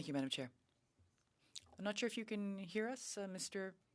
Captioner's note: speaking French